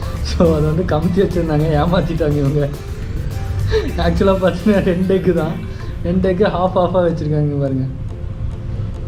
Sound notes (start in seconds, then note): 3.6 giggles